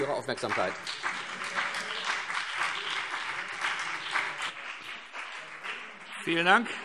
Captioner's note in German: Beifall CDU und BÜNDNIS 90/DIE GRÜNEN